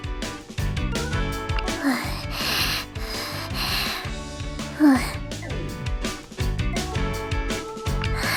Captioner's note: breathes Heavily